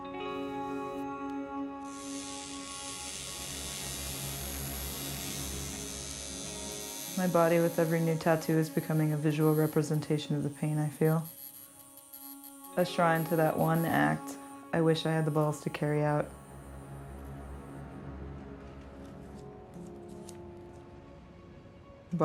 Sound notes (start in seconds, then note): 1.8 buzzing